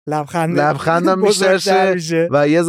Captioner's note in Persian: خنده